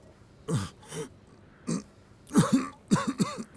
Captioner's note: quejidos